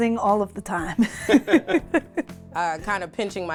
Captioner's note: laughing